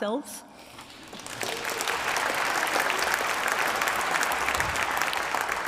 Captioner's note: applause